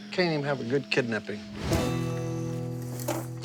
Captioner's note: crickets chirping